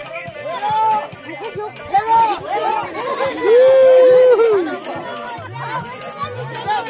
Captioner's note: villagers shouting indistinctly and cheering